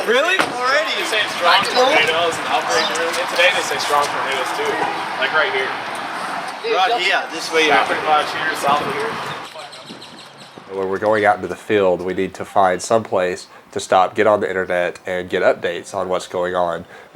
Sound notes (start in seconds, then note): 8.9 birds chirping